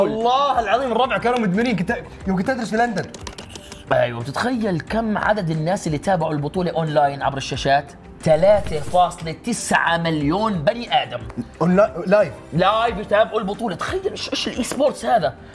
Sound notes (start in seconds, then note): 2.4 keyboard sounds